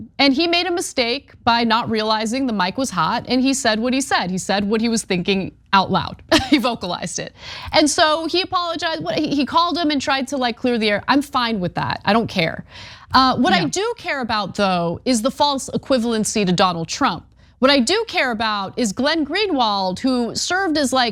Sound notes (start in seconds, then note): 6.3 laugh